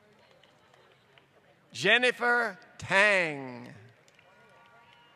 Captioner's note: applause